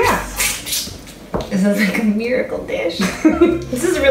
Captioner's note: sucking; laughs